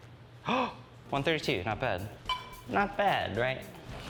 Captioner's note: gasps